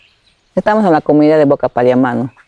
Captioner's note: speaking spanish